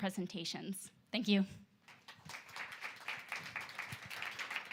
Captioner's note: applause